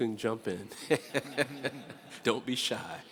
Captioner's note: everyone laughs